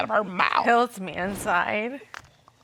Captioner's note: weeping tone